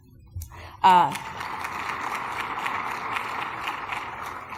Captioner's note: applause